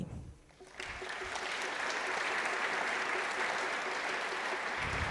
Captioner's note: applause